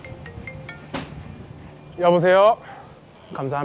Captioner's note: speaking Korean